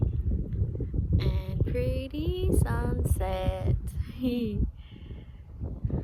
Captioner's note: in a sing-song voice